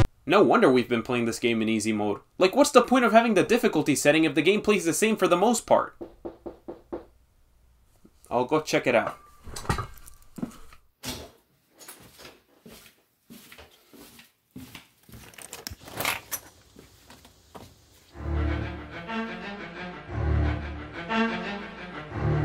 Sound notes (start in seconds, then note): 6.0 someone off-screen is knocking on the front door